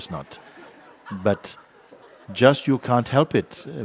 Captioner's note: laughter